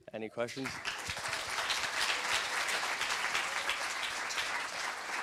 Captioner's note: applause